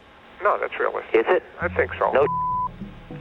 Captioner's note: beep